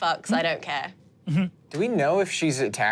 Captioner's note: chuckles